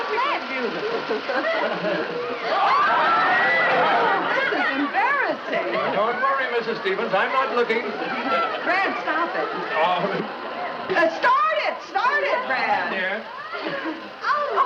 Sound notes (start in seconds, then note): 0.6 abundant Laughter